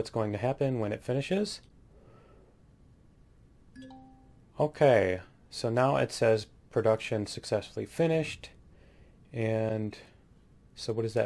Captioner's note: ding